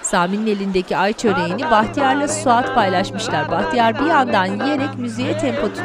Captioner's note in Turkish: Mırıldanma sesi